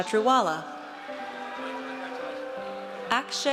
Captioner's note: audience cheers